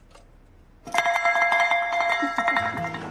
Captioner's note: rings bell